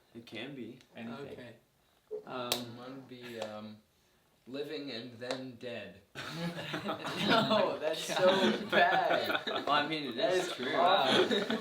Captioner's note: laughter